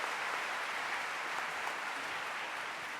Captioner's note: applause